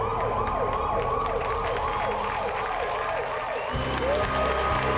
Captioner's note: applause